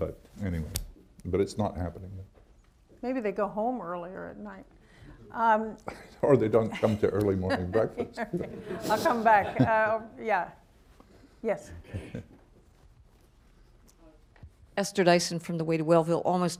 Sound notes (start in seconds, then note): 6.6 laughter; 9.6 laughs